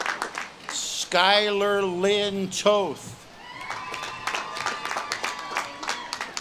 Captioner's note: audience claps and cheers